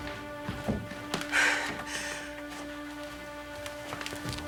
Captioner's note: sighs